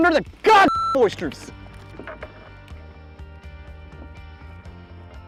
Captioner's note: sensor beep